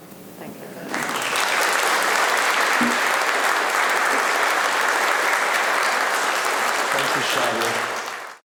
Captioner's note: applause